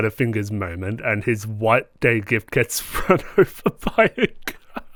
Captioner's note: laughter